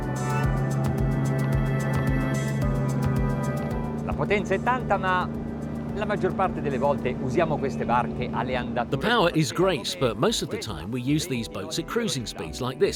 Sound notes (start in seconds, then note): 4.7 speaking in foreign language